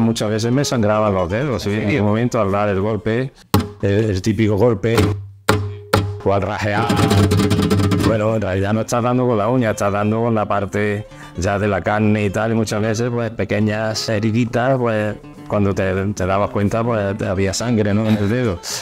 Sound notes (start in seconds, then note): 3.5 hitting